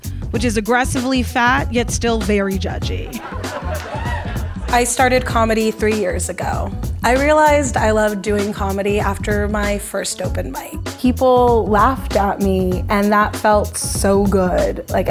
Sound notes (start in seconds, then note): 3.0 audience laughs